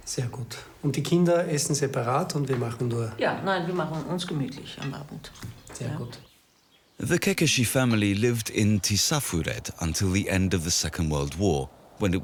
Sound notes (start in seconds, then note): 0.1 speaking in foreign language